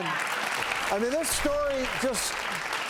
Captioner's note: audience claps